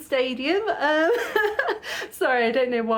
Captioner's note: laughing